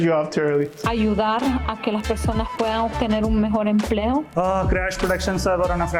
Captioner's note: non-english speech